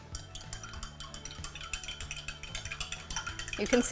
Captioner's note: spoon clinking